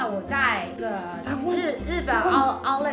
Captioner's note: An Lingrong's voice